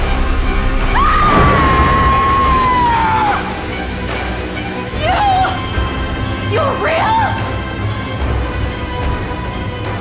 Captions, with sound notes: (horrified scream) You! You're real? (tense music)